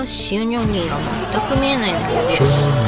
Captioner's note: laughs